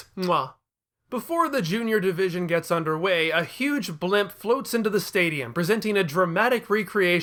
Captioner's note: muah